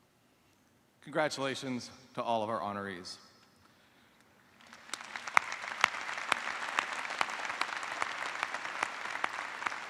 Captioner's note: applause